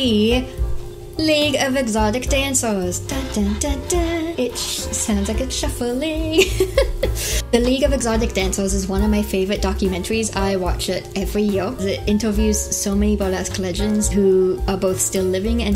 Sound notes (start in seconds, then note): 6.3 laugh